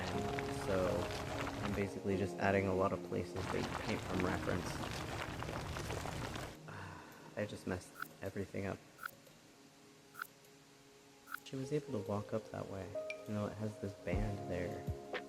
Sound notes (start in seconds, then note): 5.0 gravel sounds; 6.6 sigh